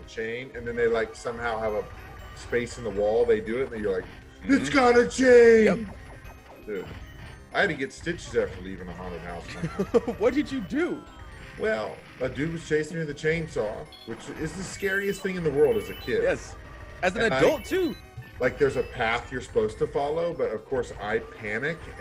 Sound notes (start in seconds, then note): 9.4 laugh